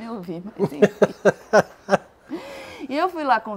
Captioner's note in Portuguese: risos